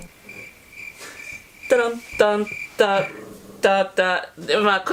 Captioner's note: crickets